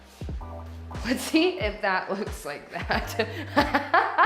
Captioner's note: laughing